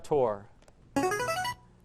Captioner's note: answer bell